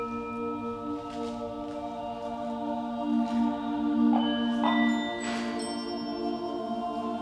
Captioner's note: bell rings several times, deep low sound